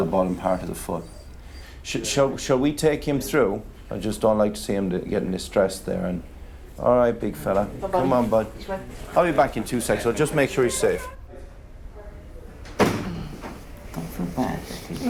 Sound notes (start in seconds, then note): 12.7 door thudding